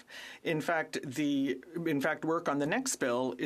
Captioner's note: speaking French